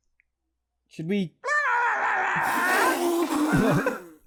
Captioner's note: imp noises